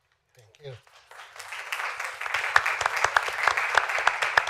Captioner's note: applause